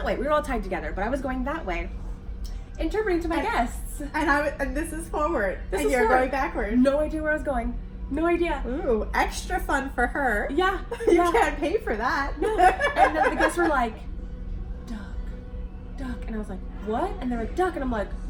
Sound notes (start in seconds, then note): 12.4 laughs